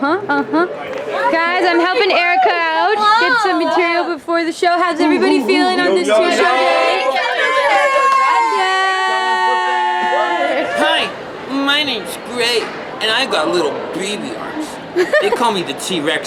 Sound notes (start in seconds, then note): 7.4 shouts